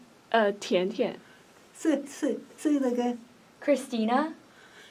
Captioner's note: in Mandarin